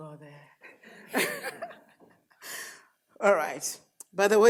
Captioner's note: audience laughs